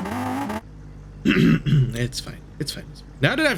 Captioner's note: clears throat